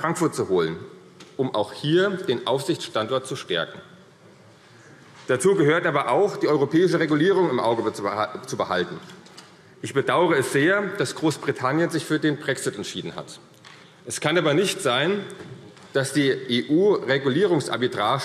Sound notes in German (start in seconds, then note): none